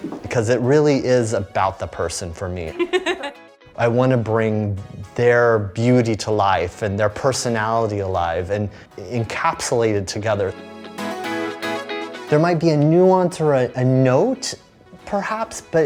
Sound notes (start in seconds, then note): 2.7 Ariana laughing; 10.8 upbeat music